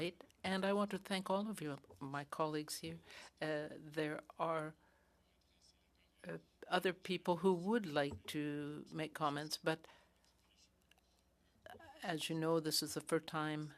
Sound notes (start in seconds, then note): 4.5 speaking French